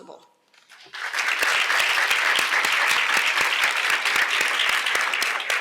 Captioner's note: applause